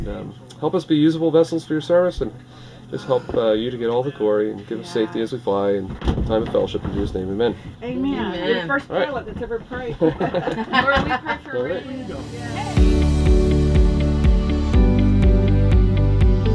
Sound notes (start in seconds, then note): 9.8 laughter